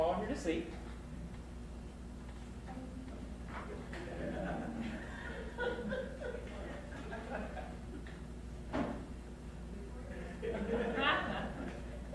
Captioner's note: audience laughing while takes a long drink